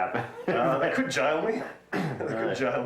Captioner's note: chuckling